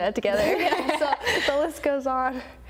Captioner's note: laugh